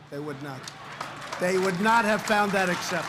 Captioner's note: applause